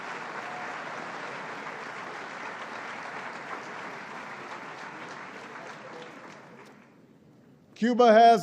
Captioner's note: applause